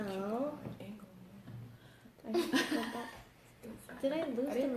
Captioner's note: laughter